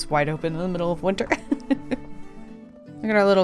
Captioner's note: laughs